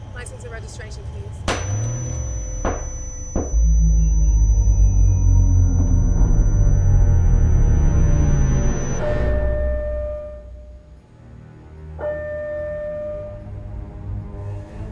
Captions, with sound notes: License and registration, please. (gunshots blast) (tense music) (siren chimes) (tense music)